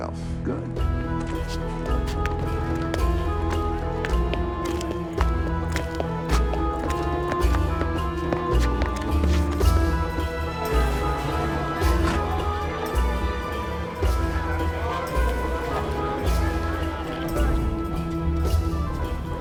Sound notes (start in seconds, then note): 1.8 suspenseful music playing; 10.4 indistinct chatter